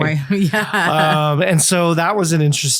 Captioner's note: laughs